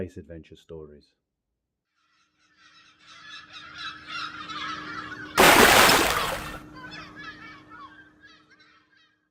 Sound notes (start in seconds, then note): 1.8 gulls Calling; 5.4 big Splash!